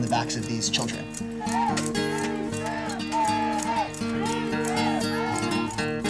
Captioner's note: protesters yelling; calming guitar music